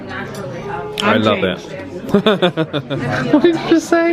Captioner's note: chuckles